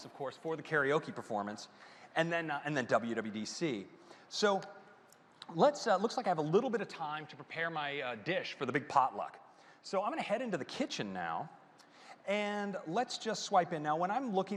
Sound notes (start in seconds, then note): none